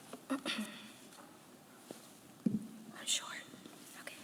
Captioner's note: clears throat